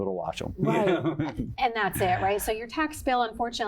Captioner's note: laugh